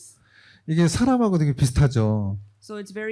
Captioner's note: speaking korean